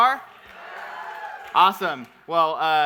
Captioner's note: audience cheering